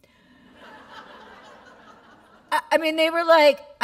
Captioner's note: laughter